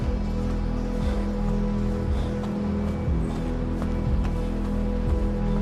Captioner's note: respiración agitada; música de tensión